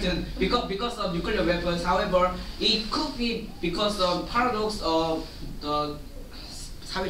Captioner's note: speaking Korean